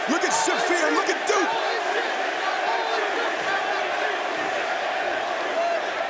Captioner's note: crowd cheering; crowd chatter